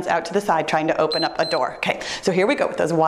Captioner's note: timer beeps